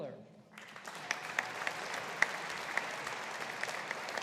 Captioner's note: audience applauding